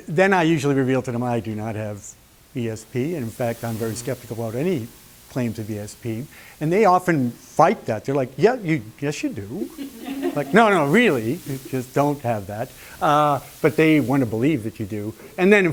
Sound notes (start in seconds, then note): 9.6 laughter